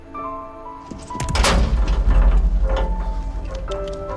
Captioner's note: gate rattles